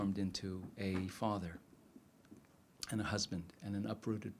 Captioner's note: none